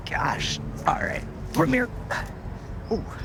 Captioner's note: sighs